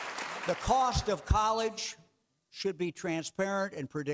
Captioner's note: clapping